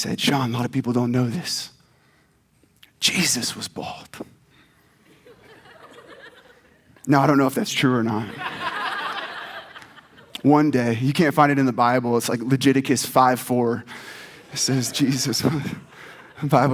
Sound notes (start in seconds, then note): 5.1 audience laughs; 8.2 audience laughs